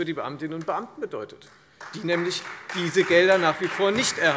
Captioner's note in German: Beifall